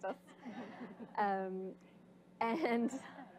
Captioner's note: audience laughter